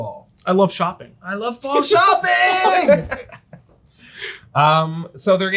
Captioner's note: all laugh